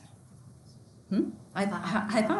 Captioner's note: speaks faintly